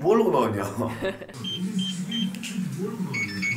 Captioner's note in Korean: 삐- 삐- 삐